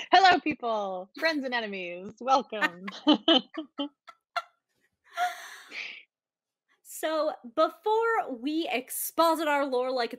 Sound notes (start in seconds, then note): 2.6 both chuckling